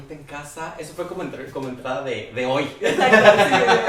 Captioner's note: laughs